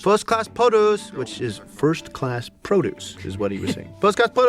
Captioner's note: in his normal accent